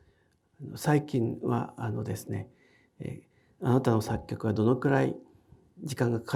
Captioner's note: speaking in foreign language